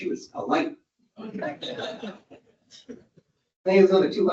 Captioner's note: audience laughs